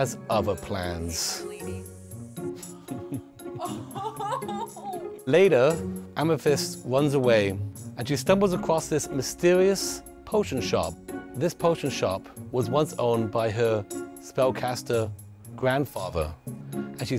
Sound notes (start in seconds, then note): 3.5 laughing